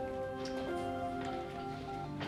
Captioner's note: dialing